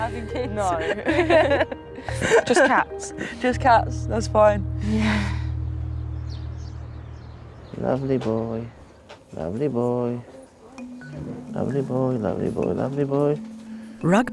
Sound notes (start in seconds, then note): 0.0 laughing